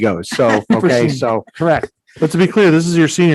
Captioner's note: all laughing